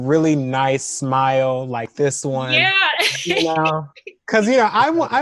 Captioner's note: laughs